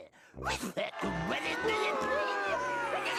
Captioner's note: audience booing